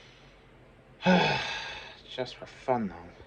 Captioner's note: sighs